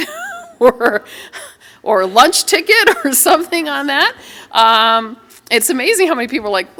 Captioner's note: laughter